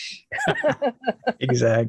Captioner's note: laughing